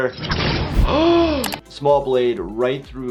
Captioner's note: sword slices through flesh; gasps